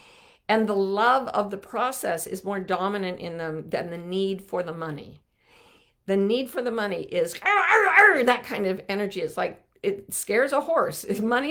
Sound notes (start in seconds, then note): 7.4 growling